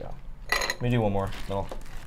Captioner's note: ice clinking